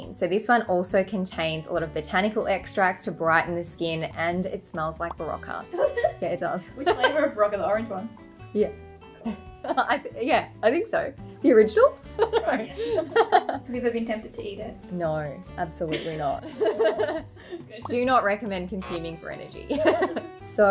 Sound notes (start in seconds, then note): 5.8 laughs; 12.2 laughs